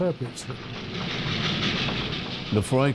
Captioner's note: train rattling